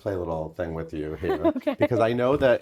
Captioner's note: chuckling